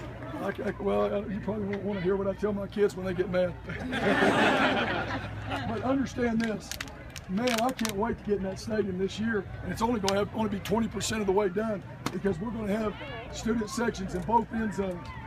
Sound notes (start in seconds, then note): 3.7 laughter